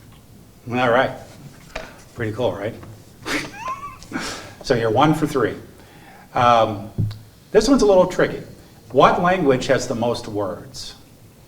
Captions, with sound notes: All right. Pretty cool, right? (laughs) So, you're one for three. This one's a little tricky. What language has the most words?